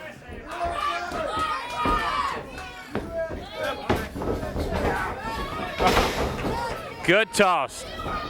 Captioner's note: crowd cheering